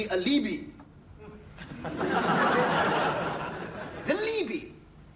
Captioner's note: audience laughter